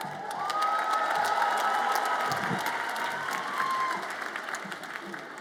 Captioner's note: audience applauds and cheers